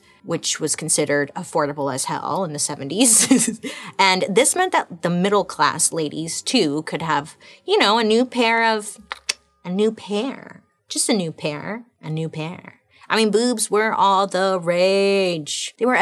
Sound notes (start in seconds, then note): 3.3 laughing; 9.0 clicking her tongue